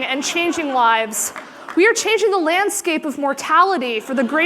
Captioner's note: laughter